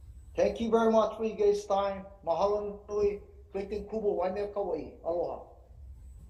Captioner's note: speaking in foreign language